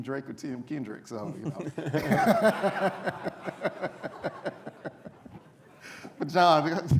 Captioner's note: laughter